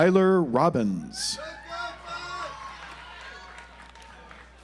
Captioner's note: audience applauds